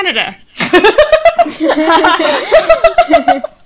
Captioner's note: all laugh